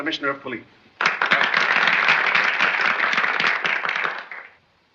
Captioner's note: applause